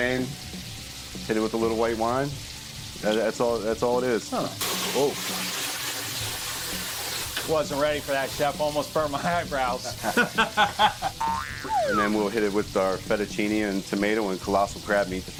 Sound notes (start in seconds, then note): 9.9 slide whistle; 10.0 laughs